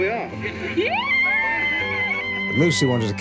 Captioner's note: fan cheering